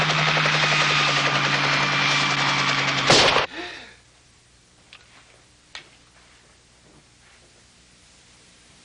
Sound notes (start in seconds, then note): 1.3 gasp; 1.3 gun shot